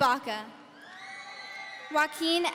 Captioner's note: audience cheering